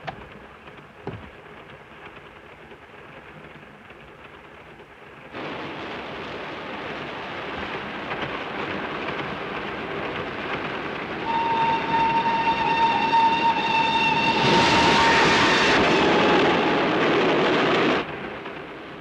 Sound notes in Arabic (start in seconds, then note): 0.2 صوت خشخشة القطار; 5.5 هدير القطار; 11.2 صافرة القطار; 14.3 هدير القطارات; 18.2 صوت خشخشة القطار